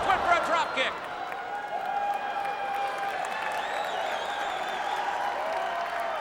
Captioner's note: audience applauding and cheering